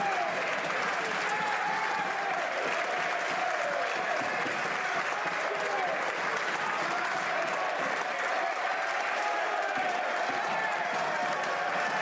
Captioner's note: some Applause